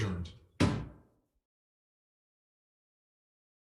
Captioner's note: gavel pounds